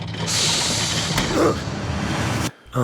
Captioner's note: rumbling; grunts